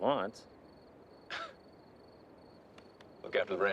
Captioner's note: chuckles